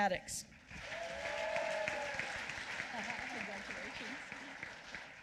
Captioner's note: applause